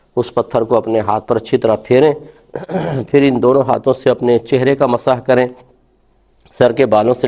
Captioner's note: it clears the throat